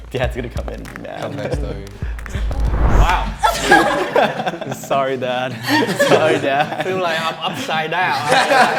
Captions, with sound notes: - Dad's gonna come in and be mad. - Wow. (all laughing) - Sorry, dad. - Sorry, dad. - It look like I'm upside out.